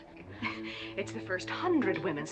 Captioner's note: scoffing